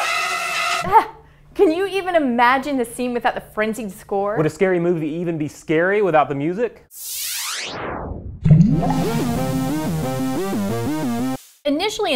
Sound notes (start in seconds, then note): 6.9 electronic swipe; 8.5 water ripple; 10.0 electronic music